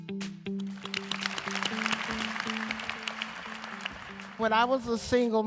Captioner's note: applause